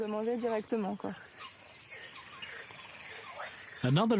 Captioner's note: toad croaking